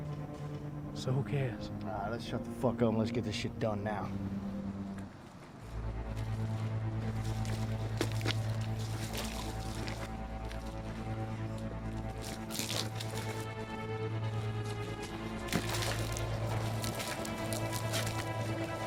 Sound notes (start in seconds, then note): 7.4 liquid splashing